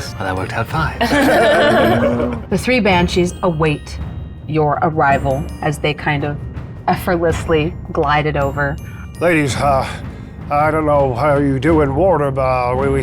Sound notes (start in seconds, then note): 1.0 players chuckling